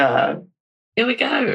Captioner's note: laughs